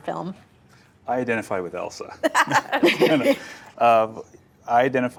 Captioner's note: both laugh